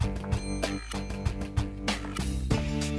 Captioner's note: elevator dinging